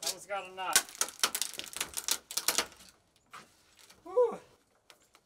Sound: plank crunching

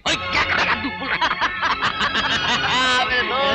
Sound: laughing

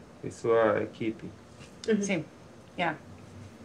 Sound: speaking foreign language

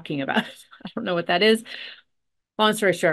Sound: chuckles

